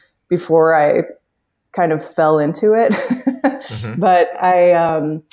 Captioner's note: laughs